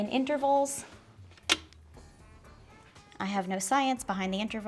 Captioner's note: mixer clicking